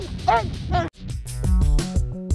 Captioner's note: barking